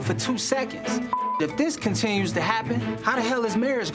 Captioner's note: beep